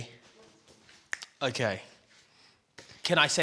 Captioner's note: snaps fingers